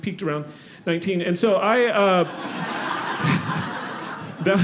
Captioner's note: audience laughing